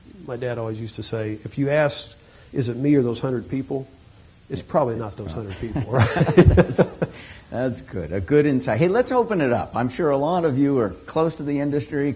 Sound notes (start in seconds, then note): 5.4 laughter